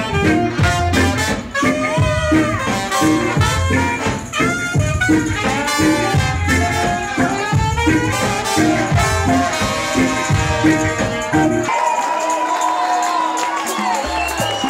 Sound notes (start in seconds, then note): 11.6 crowd cheers, applauds